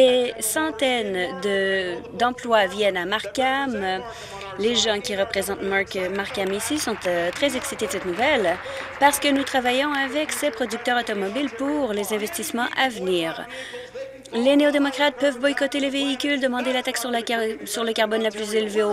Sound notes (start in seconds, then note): 11.1 applause